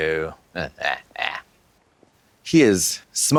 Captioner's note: Katya laughs